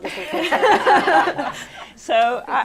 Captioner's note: laughter